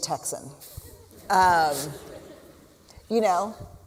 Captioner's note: laughter